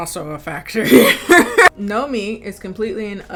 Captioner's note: laughing